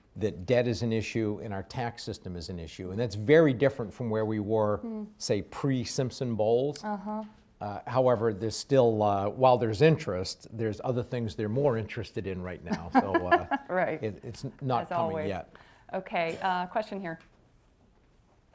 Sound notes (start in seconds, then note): 12.7 laughs